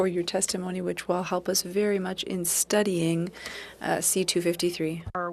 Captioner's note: speaking French